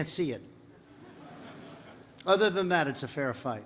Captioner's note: laughter